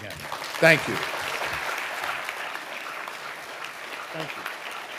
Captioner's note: audience applauding